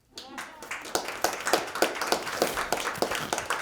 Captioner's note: applause